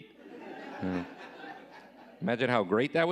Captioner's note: audience laughing